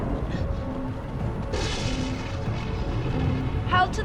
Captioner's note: thunder rumbles